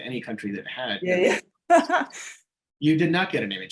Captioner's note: laughing